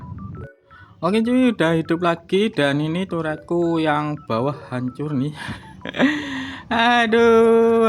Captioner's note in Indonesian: terkesiap